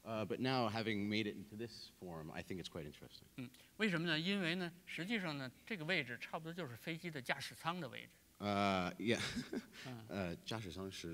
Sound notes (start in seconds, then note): 3.8 speaking in Chinese; 9.1 laughs; 10.0 speaking in Chinese